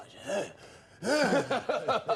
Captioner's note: mimics grunting; laughing